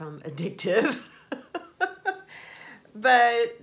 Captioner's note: laughs